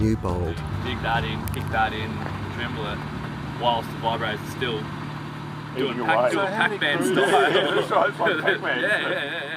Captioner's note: laughs